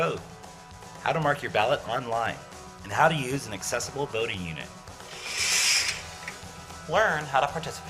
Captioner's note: sound of an election booth curtain closing